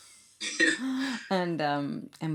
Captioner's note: laughs